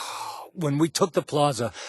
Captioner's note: irritated sigh